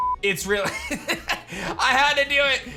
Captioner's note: laughs